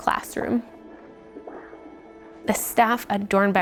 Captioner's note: doppler sounds